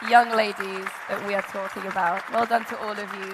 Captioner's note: audience applauding